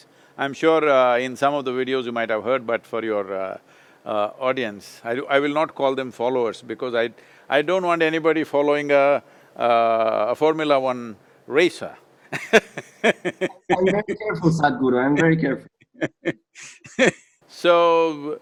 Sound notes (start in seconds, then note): 12.4 laughs; 15.7 Sadhguru laughs